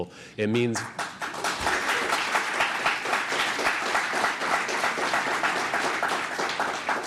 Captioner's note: applause